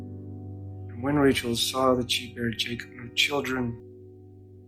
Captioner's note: voiceover